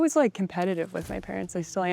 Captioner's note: graphics whooshing